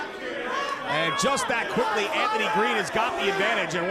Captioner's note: none